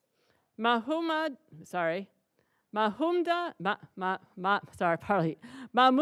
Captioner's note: stutters